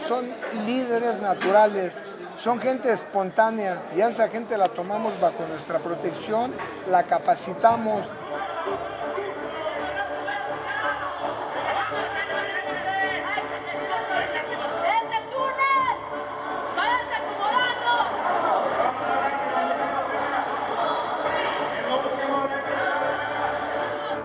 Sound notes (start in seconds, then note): 8.8 people shouting and cheering; 18.2 challenge music